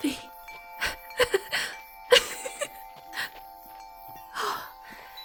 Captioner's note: laughing happily, stepping towards you